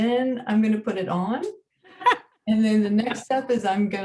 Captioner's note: women laughing